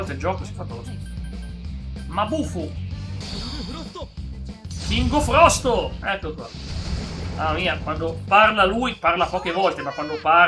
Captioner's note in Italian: sbuffare